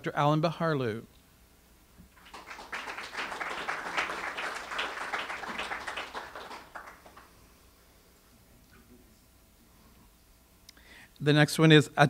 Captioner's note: audience applause